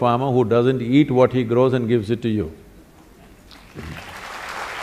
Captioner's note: applause; 掌聲